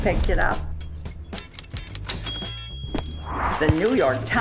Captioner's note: typewriter clacking, bell dings